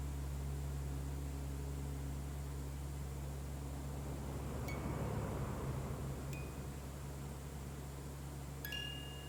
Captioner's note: child’s bell chime